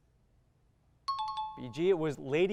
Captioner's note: timer